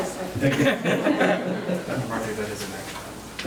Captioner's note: laughing